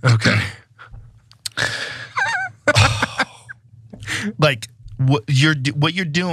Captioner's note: laugh